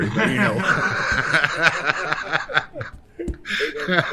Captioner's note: men laughing